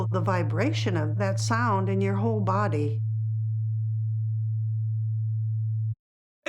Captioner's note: frequency humming